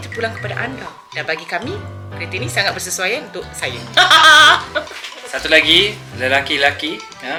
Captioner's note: laugh